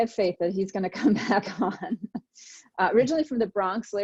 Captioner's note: laughs